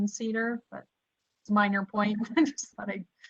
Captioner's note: laughter